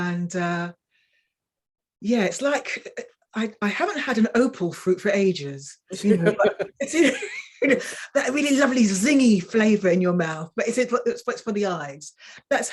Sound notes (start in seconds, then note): 5.9 woman laughing